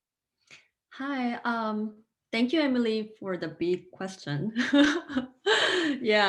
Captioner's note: laughing